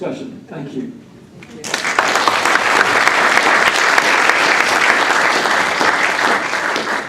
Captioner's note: applause